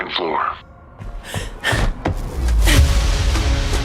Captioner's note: Agent Dark inhales